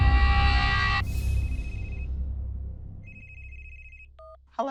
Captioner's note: cell phone ringing